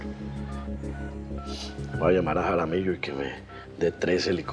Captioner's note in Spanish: Sonido al marcar